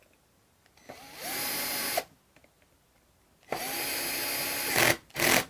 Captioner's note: screwdriver whirs